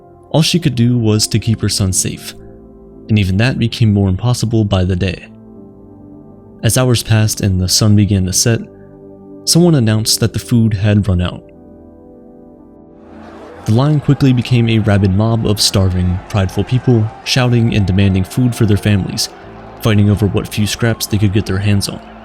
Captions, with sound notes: All she could do was to keep her son safe, and even that became more impossible by the day. As hours passed and the Sun began to set, someone announced that the food had run out. [Sound FX: A mob of people fighting] The line quickly became a rabid mob of starving, prideful people shouting and demanding food for their families, fighting over what few scraps they could get their hands on.